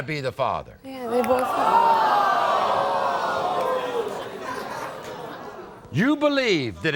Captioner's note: audience gasps